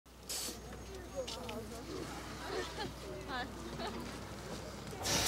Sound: group chattering and laughing

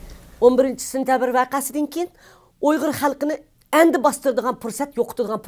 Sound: speaks in foreign language

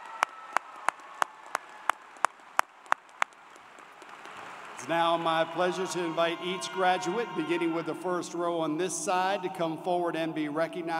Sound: cheers and Applause

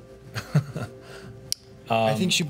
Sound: laughs

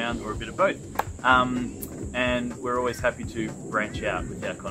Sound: claps

